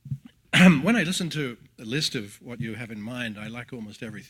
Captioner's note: cough